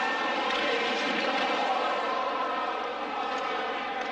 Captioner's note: hockey rink ambience